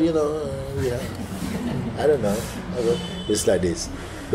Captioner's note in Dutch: gelach